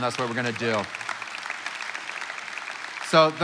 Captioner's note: congregation applauding